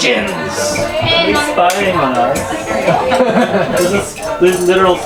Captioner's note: people chattering